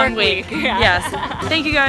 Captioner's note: laughs